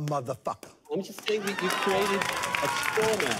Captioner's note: applause